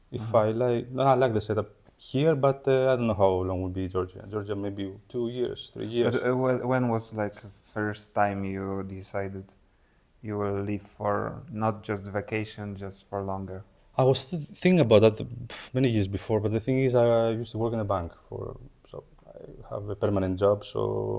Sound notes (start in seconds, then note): 15.3 sighs